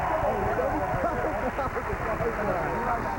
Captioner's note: cheers and applause